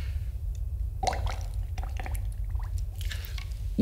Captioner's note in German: blubbert mit Strohhalm